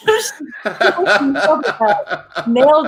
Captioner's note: laughs loudly